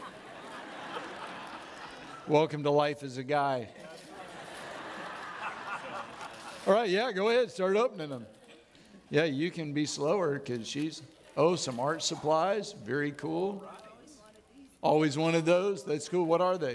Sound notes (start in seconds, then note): 3.8 audience laughing